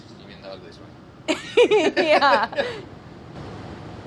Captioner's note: laughing